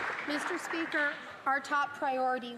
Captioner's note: some Applause